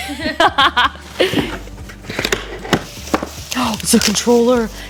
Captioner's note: laughs